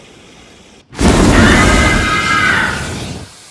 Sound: Screams in Chris Tucker

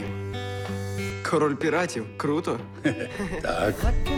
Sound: chuckles

